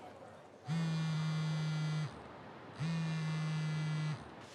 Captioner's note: phone vibrates